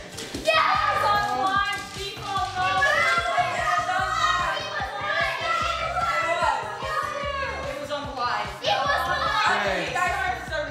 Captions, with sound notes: - Yes! - It was on the line, default no. (loud arguing) - It was on the line.